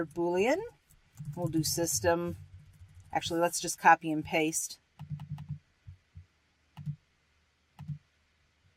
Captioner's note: typing